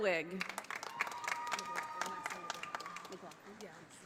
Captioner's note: audience applauding